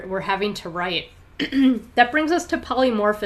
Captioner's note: clears throat